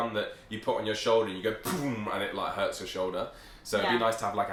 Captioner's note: imitates gun